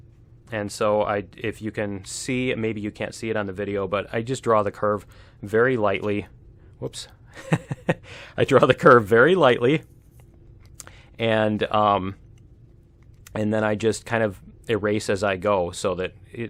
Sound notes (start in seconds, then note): 7.3 laughs